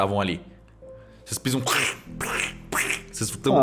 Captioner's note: pchh pchh pchh